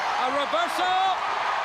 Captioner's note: crowd chatter